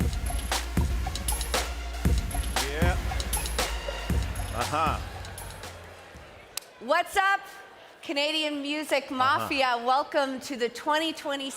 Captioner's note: cheering and applause